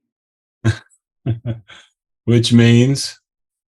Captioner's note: laughs